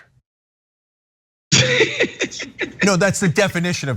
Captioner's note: laugh